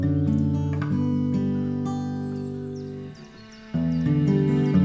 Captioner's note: birds chirping